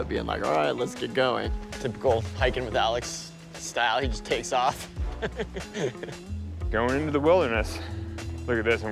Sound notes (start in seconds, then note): 4.7 laughing